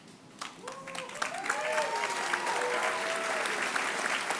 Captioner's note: applause